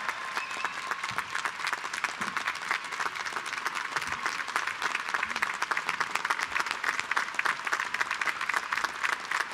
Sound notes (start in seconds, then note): 2.0 applause